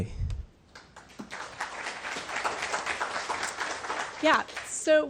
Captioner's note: crowd applauds